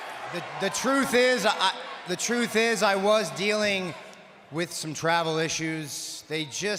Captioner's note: applause